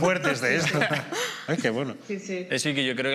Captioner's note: laughter